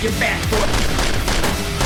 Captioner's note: gunfire